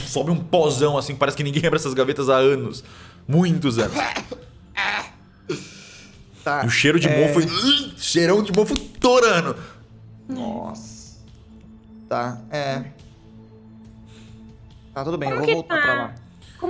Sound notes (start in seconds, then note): 3.7 cough